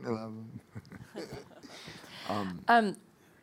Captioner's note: laughing